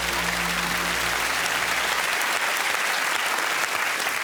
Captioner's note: applause